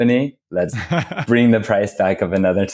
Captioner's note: laughs